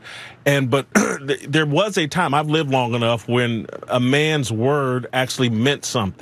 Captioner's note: cough